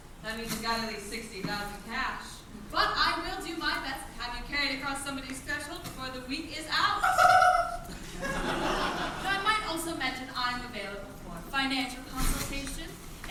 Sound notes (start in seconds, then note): 7.0 woman laughs excitedly